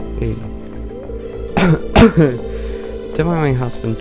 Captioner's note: cough COUGH